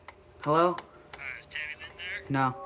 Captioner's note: on phone